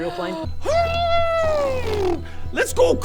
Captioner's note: hrrrgrghhrhhrhbbbrbrbbrbbbbrrrr